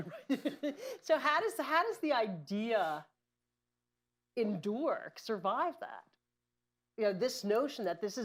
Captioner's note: laughs